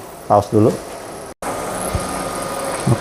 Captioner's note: printer machine noise